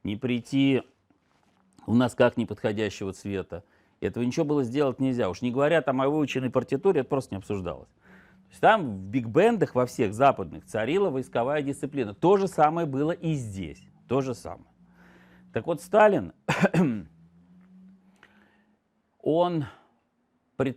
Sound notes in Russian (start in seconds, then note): 16.4 откашливается